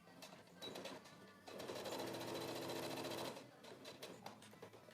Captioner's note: darning foot whirring